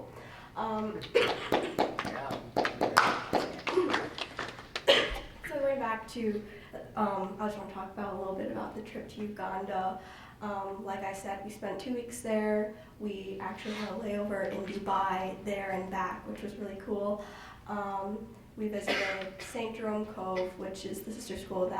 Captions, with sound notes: (Board members clapping) So, going back to, I just wanna talk a little bit about the trip to Uganda. Like I said, we spent two weeks there, we actually had a layover in Dubai there and back, which was really cool. We visited St. Jerome Cove, which is the sister school